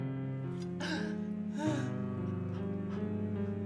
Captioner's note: groaning